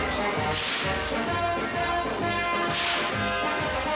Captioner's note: whip cracking